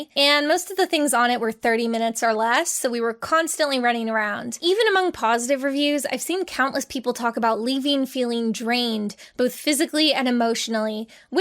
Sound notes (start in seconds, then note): none